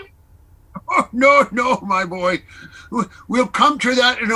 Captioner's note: chuckles